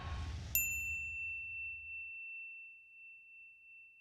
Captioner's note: dinging